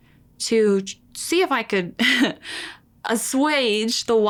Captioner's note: chuckles